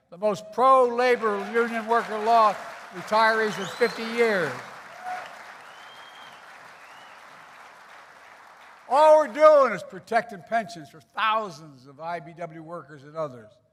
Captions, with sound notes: the most pro-labor union worker law for retirees in 50 years. (Applause.) All we're doing is protecting pensions for thousands of IBEW workers and others.